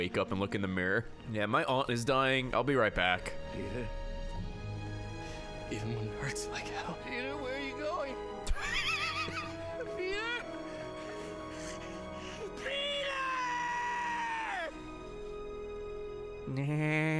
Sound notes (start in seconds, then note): 12.8 laughs; 13.7 Peter Griffin laugh